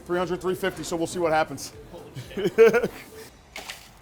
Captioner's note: laughs